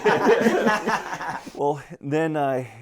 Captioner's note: all laughing